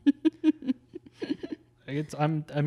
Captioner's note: laughs